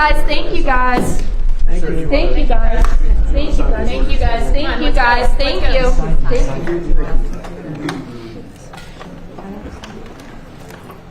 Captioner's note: background chatter